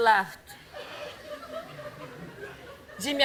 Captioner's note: laughter